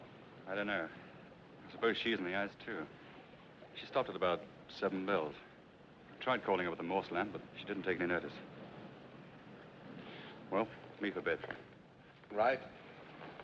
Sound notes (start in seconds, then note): none